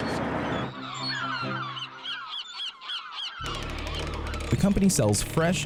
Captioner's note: seagulls squawking